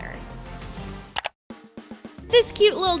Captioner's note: clicking